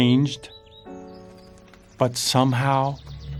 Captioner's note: rain pattering